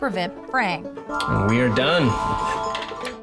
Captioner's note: chiming